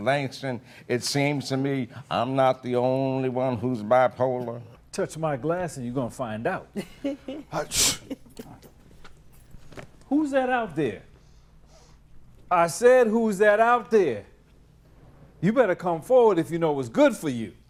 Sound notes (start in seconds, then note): 6.7 laughter